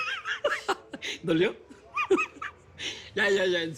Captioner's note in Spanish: Carcajada